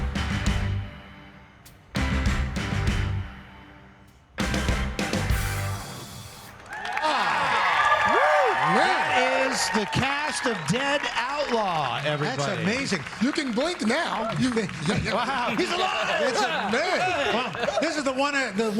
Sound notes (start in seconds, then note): 9.3 cheers and applause